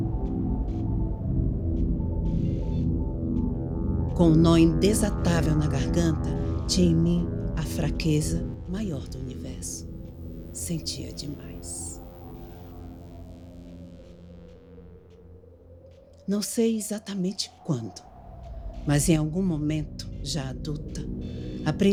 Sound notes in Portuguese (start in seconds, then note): 8.1 sibilo do vento continua